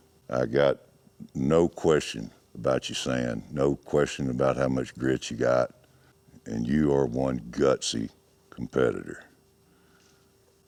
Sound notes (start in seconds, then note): none